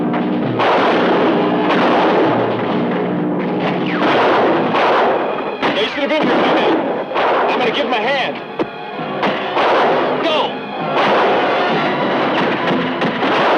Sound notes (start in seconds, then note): 0.2 guns fire; 8.7 guns fire